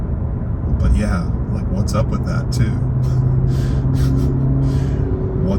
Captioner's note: laughs